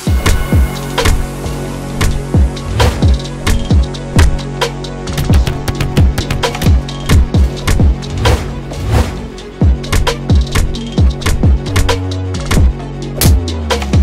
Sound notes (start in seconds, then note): 0.2 kicks thudding; 2.8 fast dramatic music; 6.0 punches thudding; 10.3 dramatic music continues